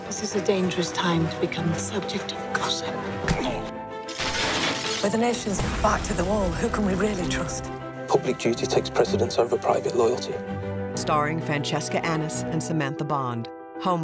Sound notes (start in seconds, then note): 4.0 glass breaking; 5.5 explosion